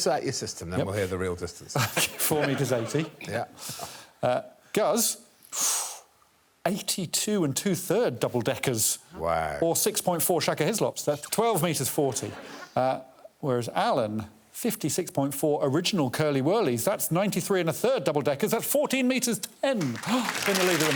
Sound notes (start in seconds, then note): 1.8 chuckles; 5.5 inhales sharply; 12.7 audience laughing; 19.8 audience applauding